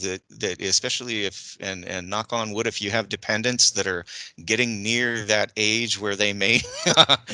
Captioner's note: laugh